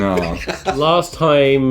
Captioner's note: laughing